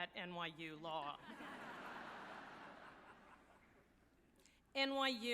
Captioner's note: audience laughing